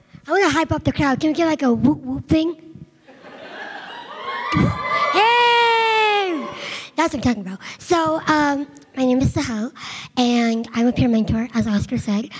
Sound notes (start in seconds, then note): 3.1 audience laughs; 3.5 audience cheering